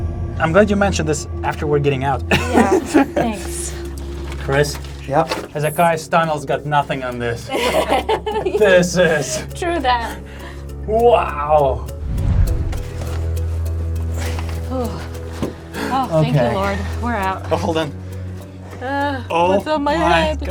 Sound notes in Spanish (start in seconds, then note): 2.2 ríe; 7.4 ríe